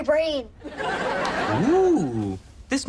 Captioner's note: audience laughs